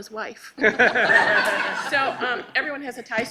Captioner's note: laughing